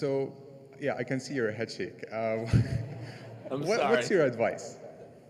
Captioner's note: laughter